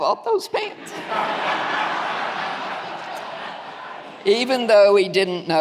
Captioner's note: audience laughing